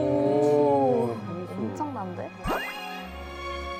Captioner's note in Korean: 감탄